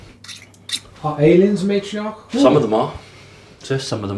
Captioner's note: voiceover